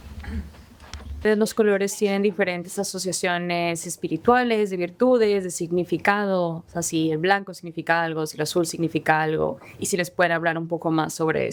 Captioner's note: translator and speaking spanish